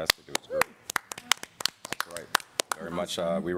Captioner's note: applause